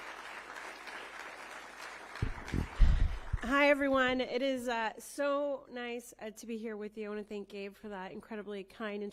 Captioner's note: applause